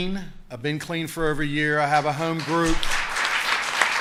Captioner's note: applause